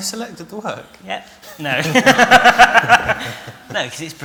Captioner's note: laughter